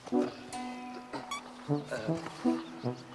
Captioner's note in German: Quietschen